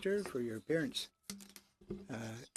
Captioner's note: speaking French